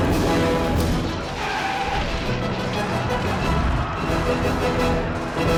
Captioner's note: tires screeching